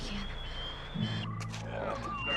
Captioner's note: whistle